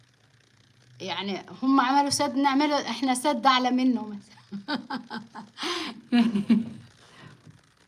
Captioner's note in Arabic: ضحك